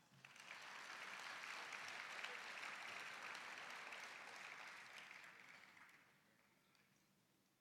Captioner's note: applause